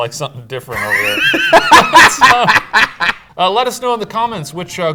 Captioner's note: laughs